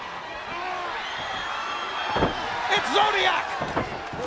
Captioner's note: crowd cheering